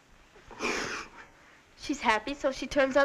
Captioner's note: sniffling